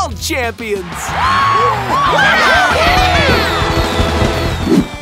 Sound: cheering

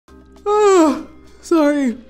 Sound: yawns

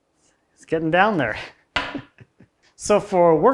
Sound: chuckles

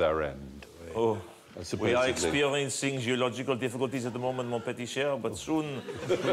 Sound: French accent

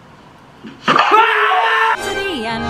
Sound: screaming their heads off!

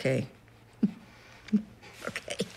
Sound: chuckling

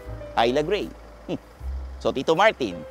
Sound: scoffs

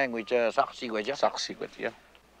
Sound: speaking in foreign language

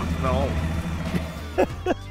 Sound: voiceover; laughing

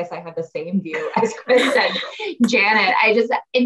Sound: laughs

